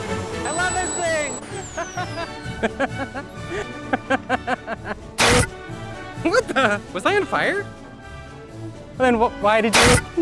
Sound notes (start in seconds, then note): 1.7 laughing; 5.2 fire extinguisher spraying